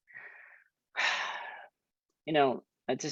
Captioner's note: takes deep breath